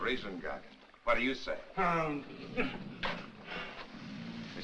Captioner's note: Gargon Grunts